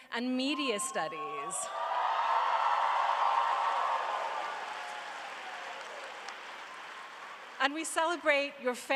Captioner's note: cheering and applause